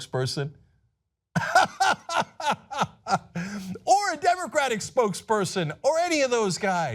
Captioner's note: laughter